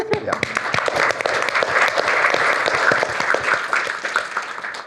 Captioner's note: applause